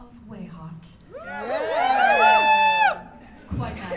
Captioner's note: cheers